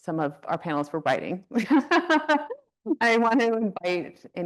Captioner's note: laughs